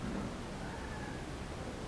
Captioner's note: bang; ladies scream